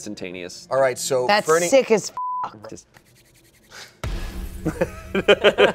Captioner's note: beep; everyone laughs